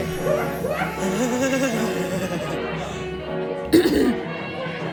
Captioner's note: Bailey sighs; clears throat